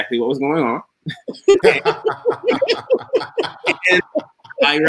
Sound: all laughing

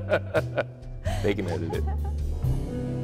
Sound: laughs

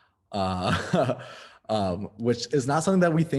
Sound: laughs

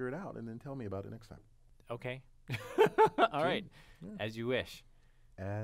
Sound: laugh

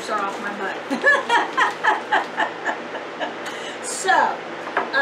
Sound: laughs loudly

